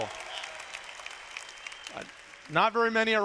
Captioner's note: applause